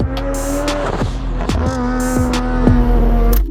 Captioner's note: engine continues to roar